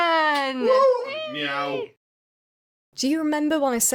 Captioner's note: meow